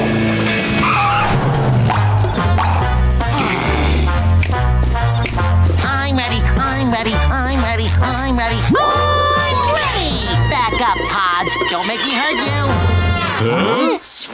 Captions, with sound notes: [popping sound] [growling] I'm ready, I'm ready, I'm ready, I'm ready. I'm ready! Back up Pods, don't make me hurt you. Huh?